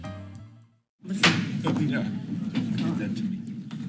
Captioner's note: gavel bangs